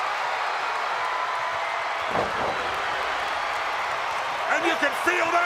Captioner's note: crowd cheering